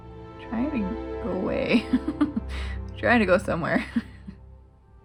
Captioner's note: laugh